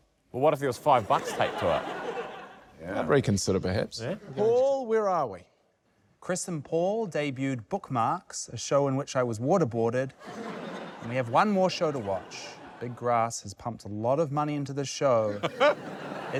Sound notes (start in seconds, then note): 10.2 laughter